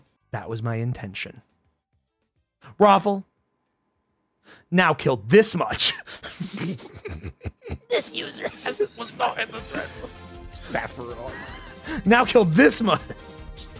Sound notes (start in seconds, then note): 5.8 laughs